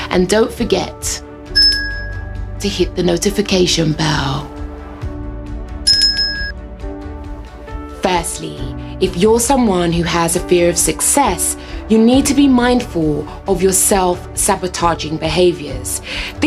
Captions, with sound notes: And don't forget. (bell rings) To hit the notification bell. (bell rings) Firstly, if you're someone who has a fear of success, you need to be mindful of your self-sabotaging behaviours.